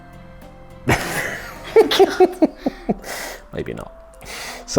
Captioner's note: chuckles